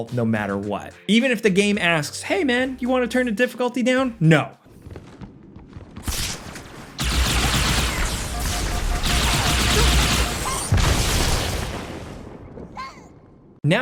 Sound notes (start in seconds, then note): 6.9 guns blasting; 10.8 explosion booms